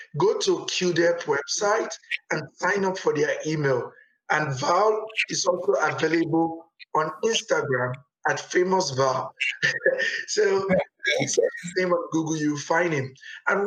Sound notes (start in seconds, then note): 9.4 both laugh